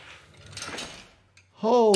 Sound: metal clangs

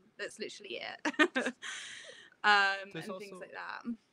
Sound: laughs

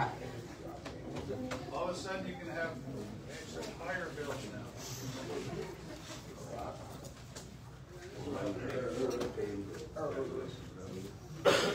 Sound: indistinct chatter

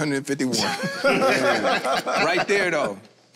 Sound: group laughs

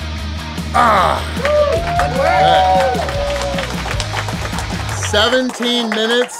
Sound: cheering & Clapping

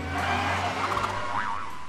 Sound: boing

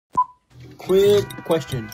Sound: beep

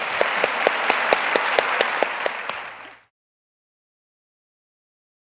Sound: audience applauding

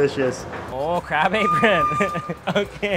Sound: chuckles

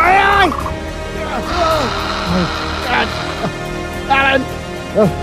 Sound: Dilophosaurus hissing

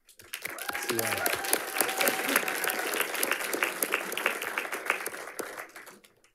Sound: audience cheering and applauding

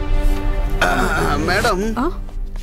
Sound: clears throat

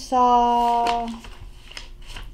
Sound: flipping through pages

